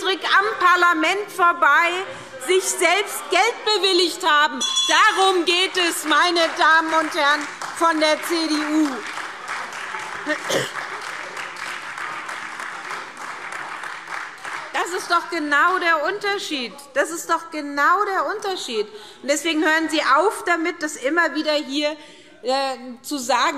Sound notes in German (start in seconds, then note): 4.6 Unruhe – Glockenzeichen; 9.1 Beifall SPD, AfD und Freie Demokraten